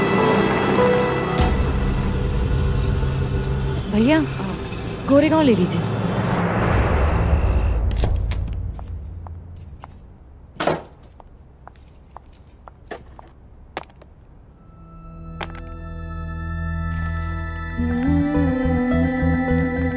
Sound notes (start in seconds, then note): 10.6 door closes; 10.8 footsteps